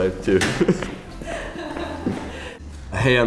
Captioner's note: laughter